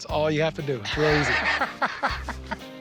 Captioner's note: laughs